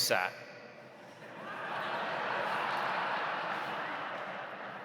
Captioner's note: audience laughs